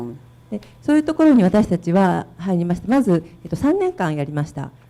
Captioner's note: speaking foreign language